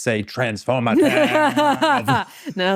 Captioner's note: laughing